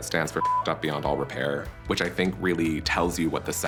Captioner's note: beep